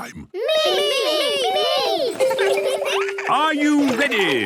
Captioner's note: laughter